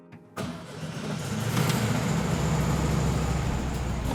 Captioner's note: car engine starts